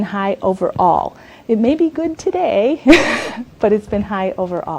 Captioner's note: laughs